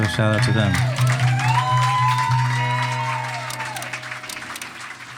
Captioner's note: audience applauding and cheering